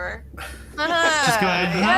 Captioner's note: group laughs